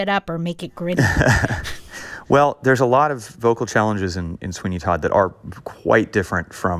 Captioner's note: laughter